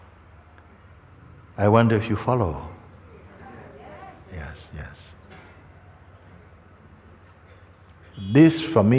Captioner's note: voices in audience